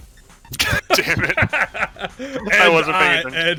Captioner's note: laughs